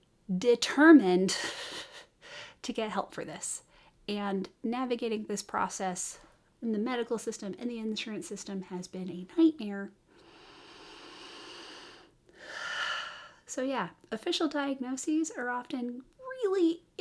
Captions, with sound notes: DETERMINED to get help for this and navigating this process in the medical system and the insurance system has been a nightmare. (calming breath in overwhelmed American) So yeah, official diagnoses are often really